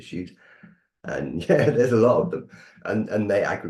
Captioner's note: chuckles